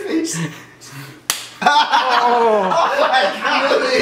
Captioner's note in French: Rires